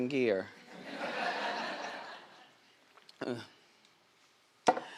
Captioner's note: crowd laughs